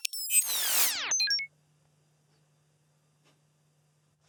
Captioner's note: electricity whirring